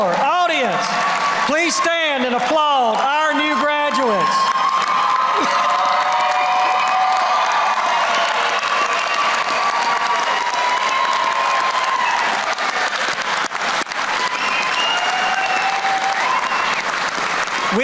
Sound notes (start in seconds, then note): 4.9 applause